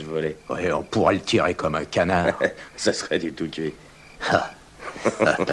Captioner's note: both Chuckle